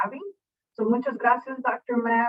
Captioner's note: speaking in foreign language